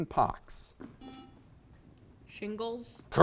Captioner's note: buzzer beeps